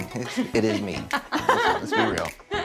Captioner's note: laughter